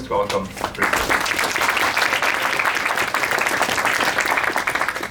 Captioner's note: applause